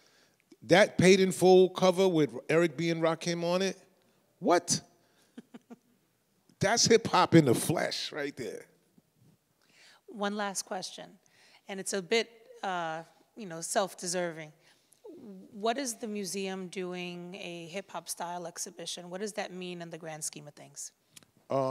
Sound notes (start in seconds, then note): 5.3 chuckles